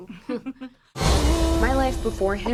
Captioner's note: chuckles